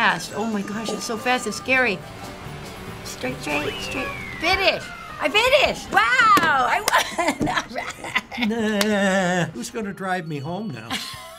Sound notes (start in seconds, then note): 6.8 chuckling; 8.6 laughs sarcastically; 10.9 laughs